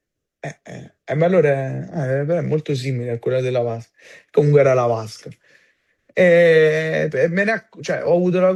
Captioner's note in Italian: schiarire la voce